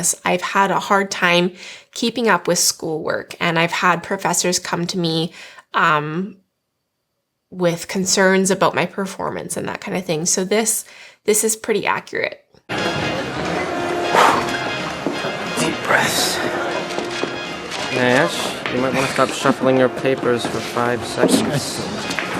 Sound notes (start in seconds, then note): 12.9 jazz music; 14.1 exhales